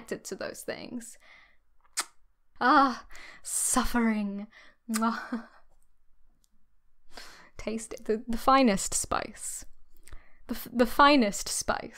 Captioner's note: kiss noise